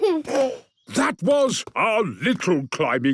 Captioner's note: giggles